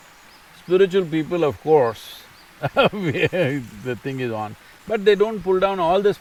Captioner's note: laughs